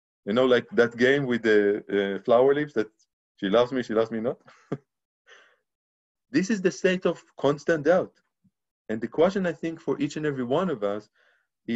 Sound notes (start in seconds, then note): 4.5 laughs